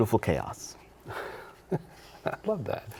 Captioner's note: laughs